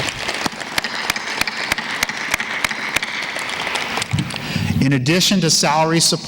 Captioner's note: applause